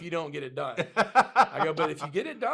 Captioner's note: laughs